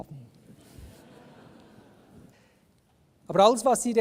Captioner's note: laughter from the audience